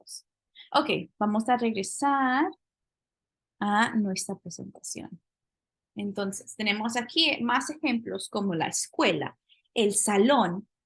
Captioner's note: speaking spanish